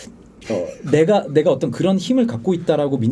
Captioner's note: laughing